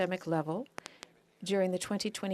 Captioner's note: speaking French